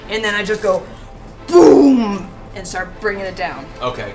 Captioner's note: deep voice